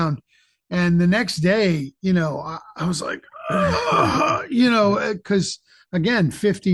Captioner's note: grunting